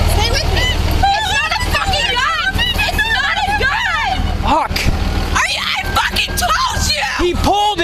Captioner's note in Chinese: 并不断传来女子咒骂声及怒吼着